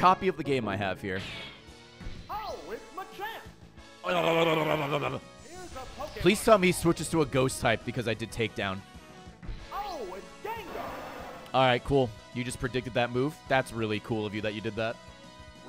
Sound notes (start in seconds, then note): 3.8 gremlin noises